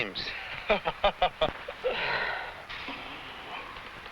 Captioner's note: man laughs